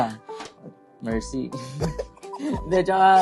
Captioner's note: laughs